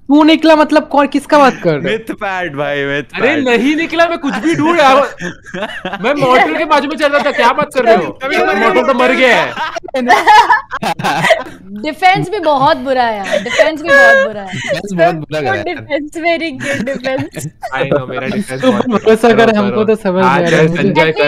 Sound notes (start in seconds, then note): 11.0 laughing